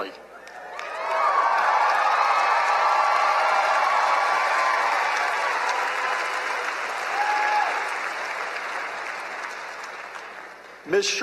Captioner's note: loud cheering and applause